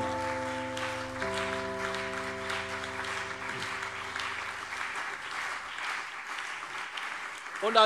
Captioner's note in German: Beifall CDU und BÜNDNIS 90/DIE GRÜNEN